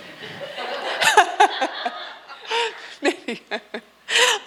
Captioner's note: audience laughing